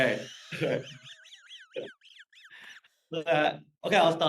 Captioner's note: laughs nervously